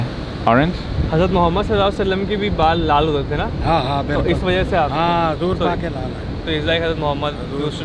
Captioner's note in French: Langue locale